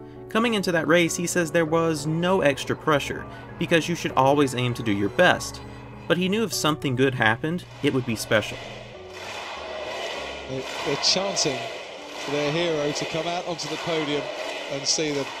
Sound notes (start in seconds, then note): 9.0 Crowd Chanting: Kamui! Kamui!